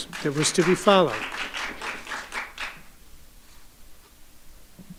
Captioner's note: audience applauding